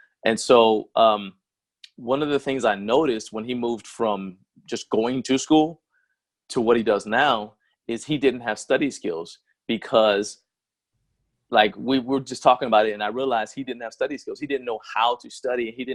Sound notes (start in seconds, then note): none